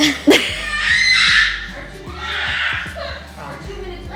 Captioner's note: laughs; screaming